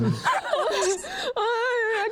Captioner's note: laughs